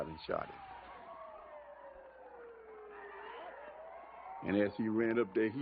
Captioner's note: sirens